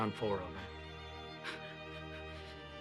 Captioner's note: sobs